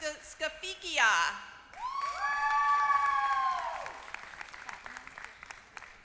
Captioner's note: applause